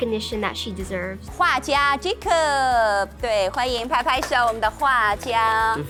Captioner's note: speaking in Mandarin